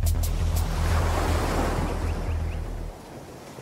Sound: waves rushing

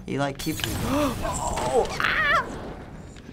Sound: gasps

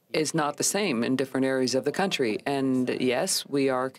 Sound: speaking french

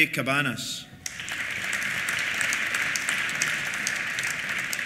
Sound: applause

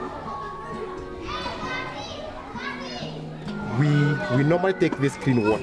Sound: children talking

